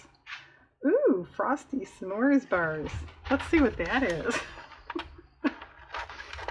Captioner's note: laughs